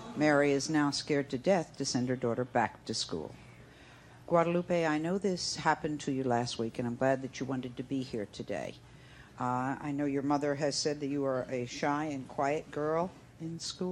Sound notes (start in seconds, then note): none